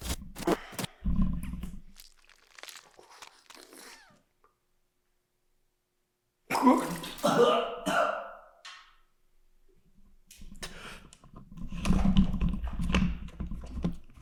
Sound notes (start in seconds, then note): 0.2 static crackling; 1.7 tooth crunching; 6.8 Jacob retching